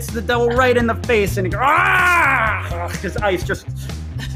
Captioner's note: yells